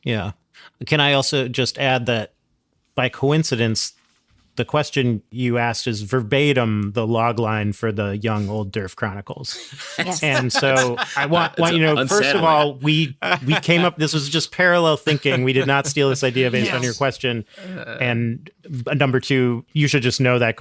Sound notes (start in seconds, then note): 9.5 laughing